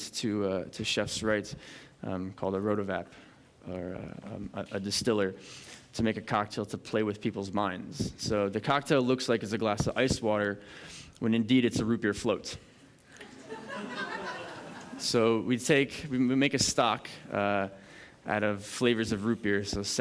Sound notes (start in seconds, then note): 13.2 laughter